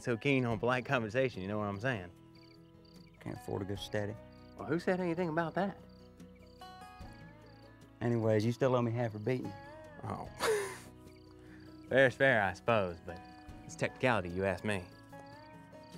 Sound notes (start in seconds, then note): 10.3 laughs